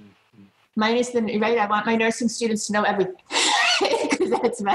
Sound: laughs; mumbling and laughing

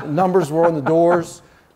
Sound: laughing

